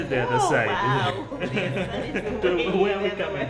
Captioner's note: laughter